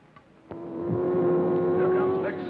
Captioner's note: car revving